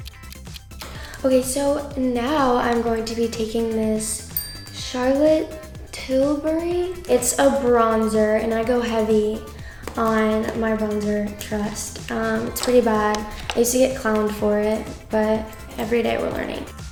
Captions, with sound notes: [clock ticking] So now I'm going to be taking this [bell chimes] Charlotte Tilbury. It's a bronzer and I go heavy on my bronzer, trust. It's pretty bad. I used to get clowned for it. But every day we're learning.